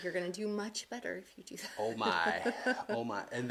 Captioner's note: laughs